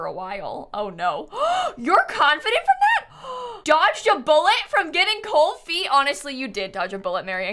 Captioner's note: gasps